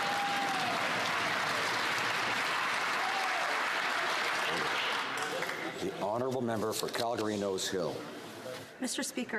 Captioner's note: some Applause